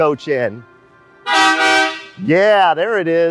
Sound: horn honks

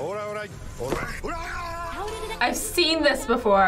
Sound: man yells

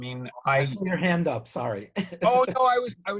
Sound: laughs

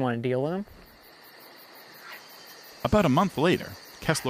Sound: crickets chirping

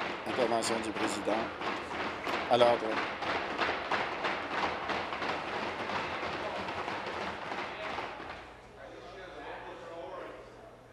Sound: tapping of desks

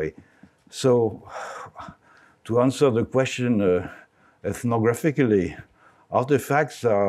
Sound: sighs

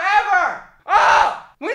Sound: yells

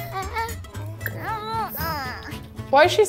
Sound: baby whines

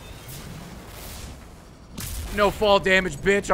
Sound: none

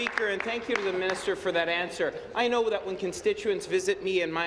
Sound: applause

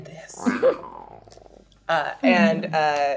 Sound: growls playfully

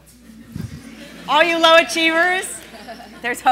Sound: laughing

